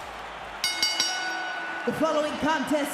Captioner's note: bell rings